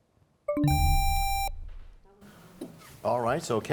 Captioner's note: bell chimes; buzzer sound